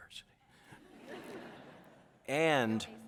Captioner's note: audience laughs